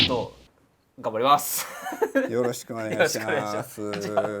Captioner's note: laugh